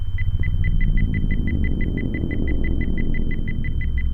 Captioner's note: beeping speeds up